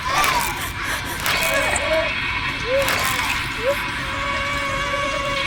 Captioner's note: blood spurting; bones cracking; Alice screaming